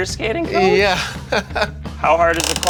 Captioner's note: laughs